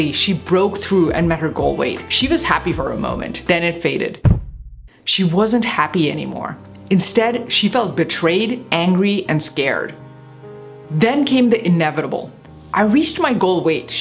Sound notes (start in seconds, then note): 4.2 object thuds; 6.2 morose music